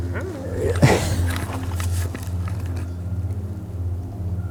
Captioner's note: laughs